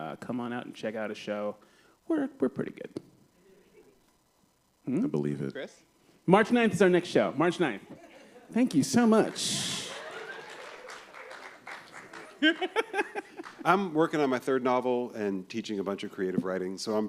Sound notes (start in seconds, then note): 9.2 applause; 12.3 laughs